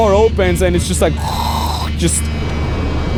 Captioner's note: imitates air whooshing